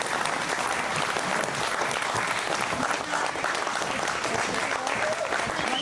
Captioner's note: cheering and whistling